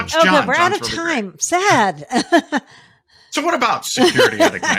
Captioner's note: laughing